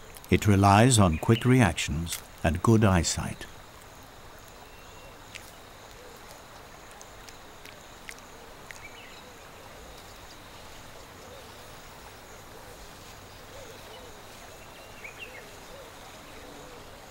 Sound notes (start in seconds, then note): 0.0 nature sounds; 3.5 nature sounds